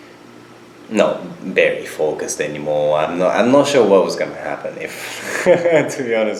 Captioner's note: laughs